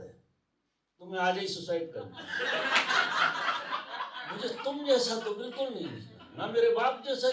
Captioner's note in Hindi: हंसी